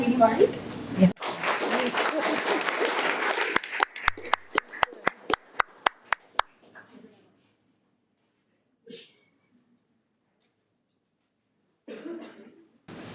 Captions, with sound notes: Katie Barnes. (audience applauding)